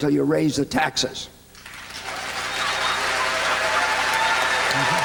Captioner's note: applause